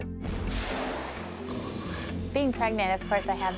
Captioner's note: jet engine roaring